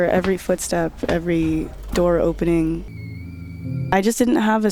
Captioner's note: door squeaks